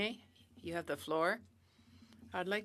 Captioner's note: speaking in French